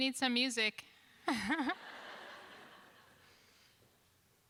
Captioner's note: laughter